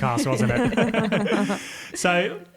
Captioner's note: all laugh